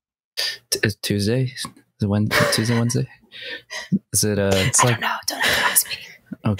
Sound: Ernie whispers

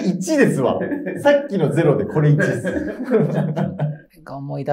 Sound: laughing

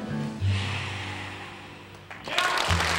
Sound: group exhales; audience applause

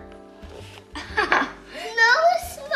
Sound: laughs

